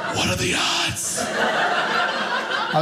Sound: audience laughing

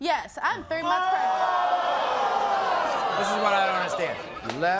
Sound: audience gasps

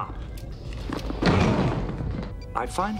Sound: thud

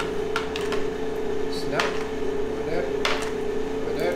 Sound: tapping mold gently

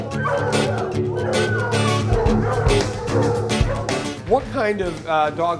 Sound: music/dogs barking

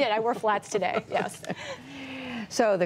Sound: laughter

